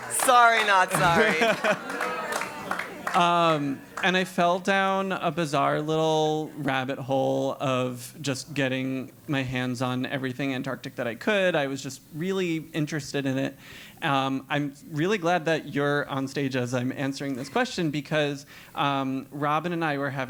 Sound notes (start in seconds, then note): 0.0 applause; 0.0 laugh